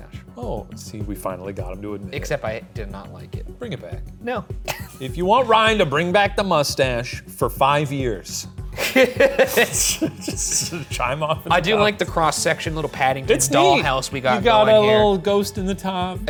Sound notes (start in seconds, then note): 4.7 laughs; 8.8 laughs